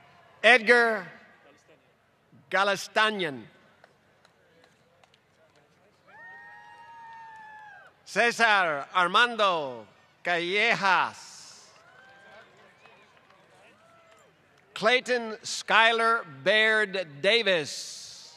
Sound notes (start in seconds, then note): 4.5 applause; 14.3 applause